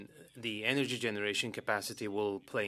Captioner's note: speaking French